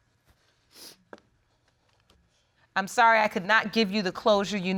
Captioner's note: sobs and sniffles